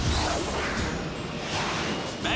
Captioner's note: jets whir